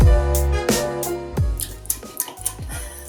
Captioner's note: eating sounds